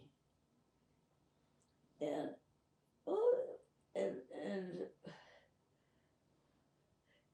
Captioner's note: pauses 6 seconds